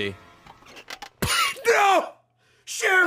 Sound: laughs

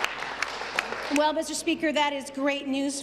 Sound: applause

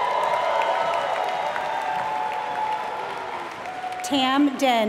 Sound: applause

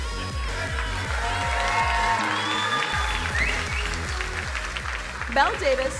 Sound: crowd cheering and applauding

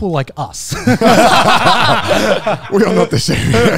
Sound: all laughing

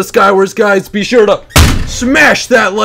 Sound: bang

